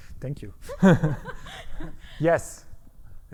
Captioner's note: all laughing